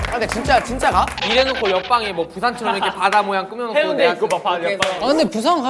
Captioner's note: suspicious vocals